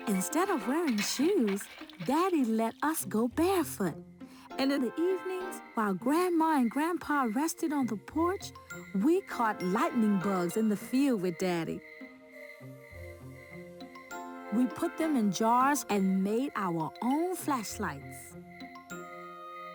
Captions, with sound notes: Instead of wearing shoes, Daddy let us go barefoot. And in the evenings while Grandma and Grandpa rested on the porch, we caught lightning bugs in the field with Daddy. (crickets chirping) We put them in jars and made our own flashlights.